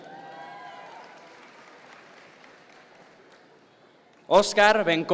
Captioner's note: audience members cheer